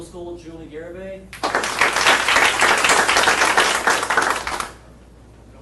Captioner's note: audience applauding